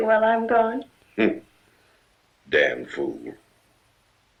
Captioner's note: chuckling